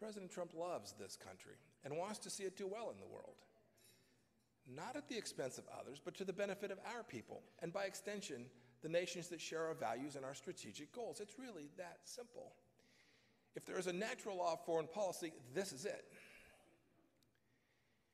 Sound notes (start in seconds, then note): none